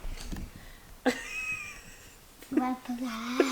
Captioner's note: laughing